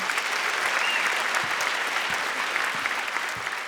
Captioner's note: applause